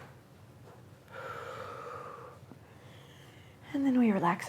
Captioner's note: exhales